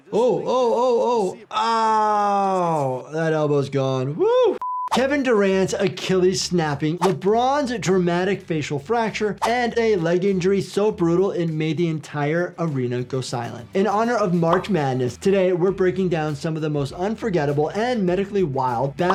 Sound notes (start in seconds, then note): 4.6 one mHz test tone beeps; 4.9 audio whooshes; 9.5 audio whooshes; 14.4 graphic pops; 15.8 soft upbeat music plays